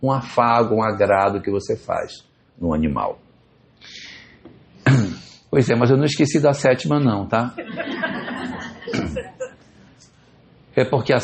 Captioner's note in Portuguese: limpando a garganta